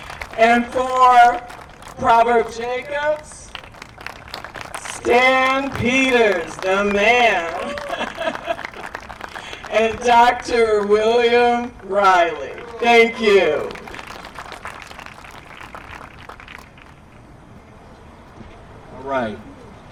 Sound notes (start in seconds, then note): 0.0 applause; 3.4 applause; 7.3 applause; 13.7 applause